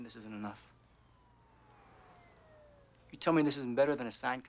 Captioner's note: siren wailing